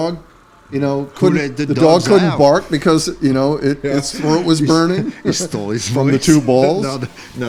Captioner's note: laughter